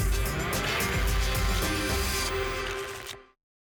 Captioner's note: tickets shuffling